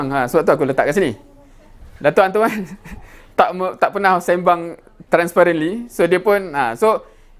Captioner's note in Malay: ketawa